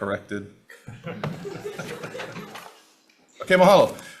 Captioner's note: everyone laughs